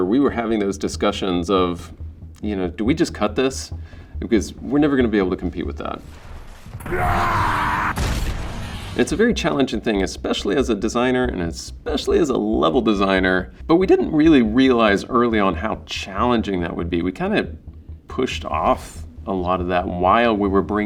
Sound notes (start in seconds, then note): 7.0 man shouting; 7.9 gunshot